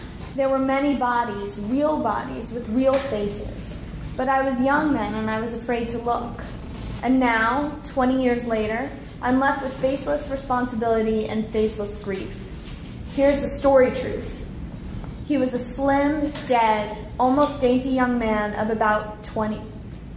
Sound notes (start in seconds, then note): none